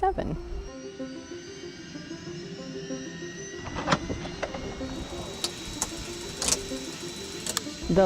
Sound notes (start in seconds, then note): 0.3 helicopter starting; 4.7 clicking